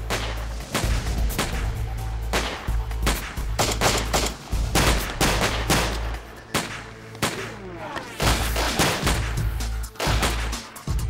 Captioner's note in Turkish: si̇lah sesleri̇